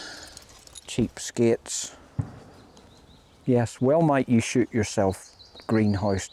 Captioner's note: distant gunshot